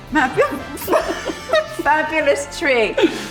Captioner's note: both laughing